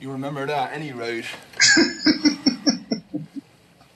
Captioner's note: laughing